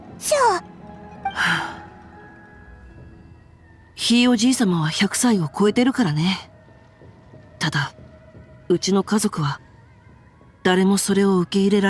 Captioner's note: sigh